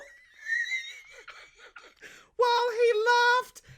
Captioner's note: laughs